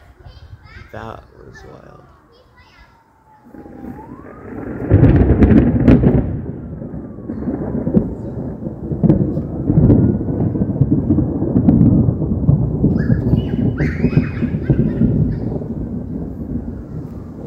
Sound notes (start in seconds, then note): 3.4 thunder crackles; 4.9 very loud thunder